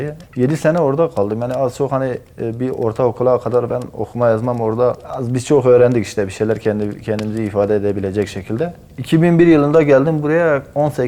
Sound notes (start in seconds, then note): 8.3 in turkish